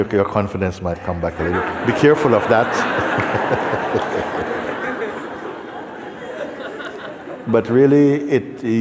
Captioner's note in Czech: smích